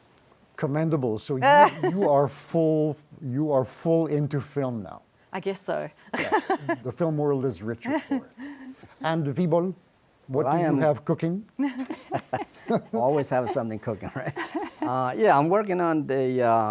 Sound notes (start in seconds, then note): 11.6 laughter